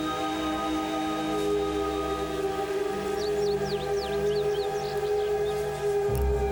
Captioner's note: birds chirping; ominous ethereal music